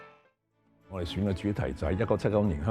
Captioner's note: Cantonese